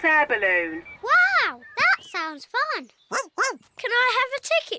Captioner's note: barks